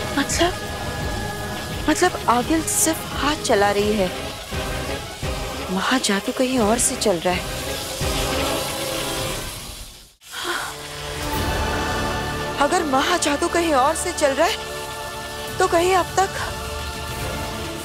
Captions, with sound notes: That means... That means Aageel is only doing actions but Mahajadu is being performed from somewhere else. [sighs] If someone else is performing the Mahajadu then I hope